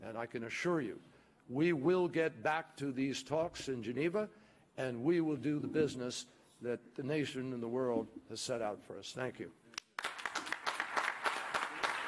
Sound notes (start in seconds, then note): 9.8 applause